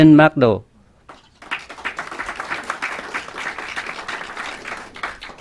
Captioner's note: clapping